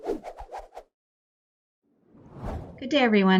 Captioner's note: logo swooping